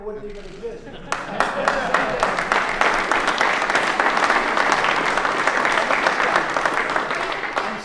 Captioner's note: applause